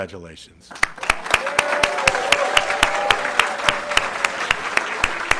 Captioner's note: audience clapping